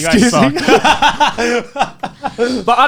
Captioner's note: laughs